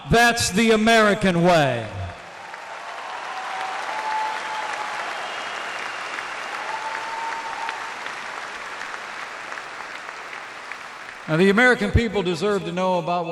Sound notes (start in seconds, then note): 1.8 applause